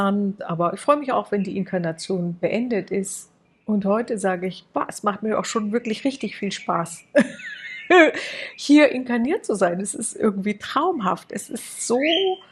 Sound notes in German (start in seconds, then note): 7.1 gelächter